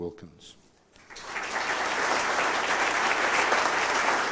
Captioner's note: applause